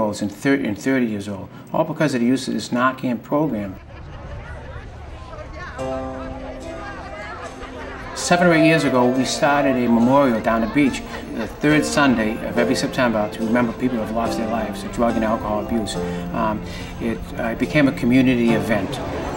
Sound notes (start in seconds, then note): 4.6 people laughing and talking; 4.6 piano music starts